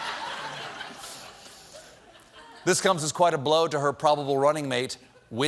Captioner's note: laughter